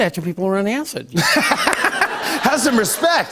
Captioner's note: laughter